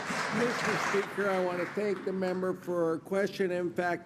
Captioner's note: applause